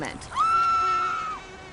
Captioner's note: screaming